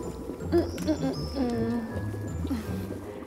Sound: humming

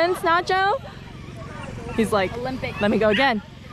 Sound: dog whimpering

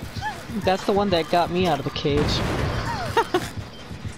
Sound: laughs

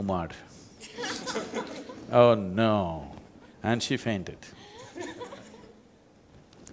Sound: laughter

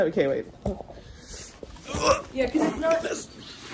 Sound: grunts

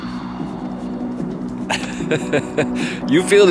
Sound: upbeat music; laughs

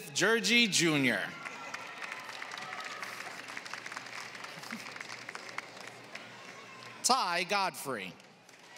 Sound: applause

